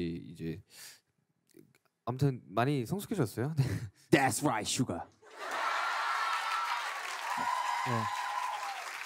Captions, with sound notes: - That's right, Suga. (cheering)